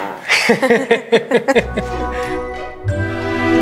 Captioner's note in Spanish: los padres riendo